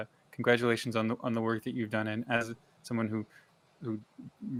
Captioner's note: none